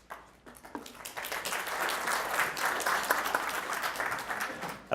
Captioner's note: audience clapping